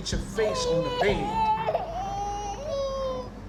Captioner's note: crying